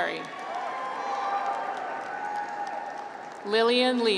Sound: graduates cheer

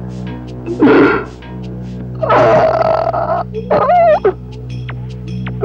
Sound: groans

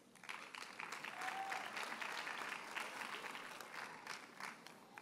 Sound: audience applauds

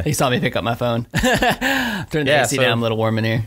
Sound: laughs

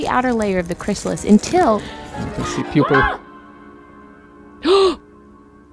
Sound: gasps

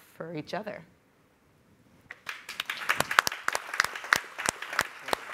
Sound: group applauding

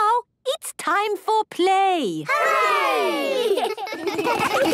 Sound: laughter

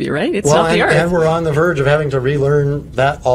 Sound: laughs

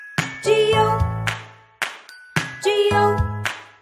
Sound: clap; clap

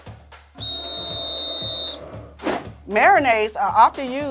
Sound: whistle blowing; crowd booing

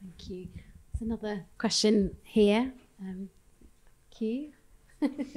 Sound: chuckles

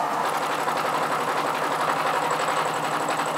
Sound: rattling whirring

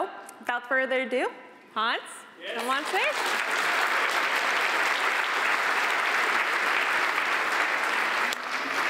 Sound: applause

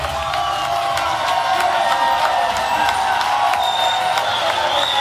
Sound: cheering

